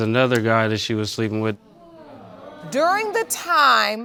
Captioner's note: audience exclaims